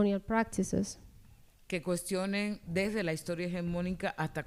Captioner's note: speaking spanish